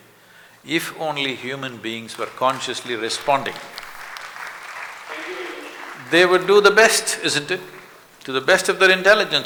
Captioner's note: applause